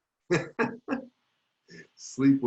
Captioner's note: laughing